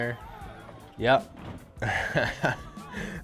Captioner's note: chuckles